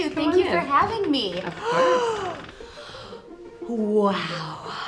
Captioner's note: Jillian gasping